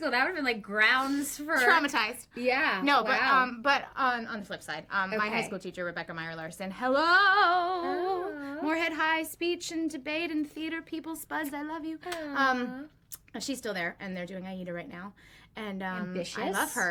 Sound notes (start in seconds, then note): 7.9 sing-song